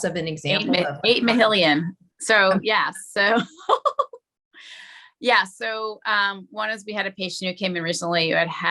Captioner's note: laughs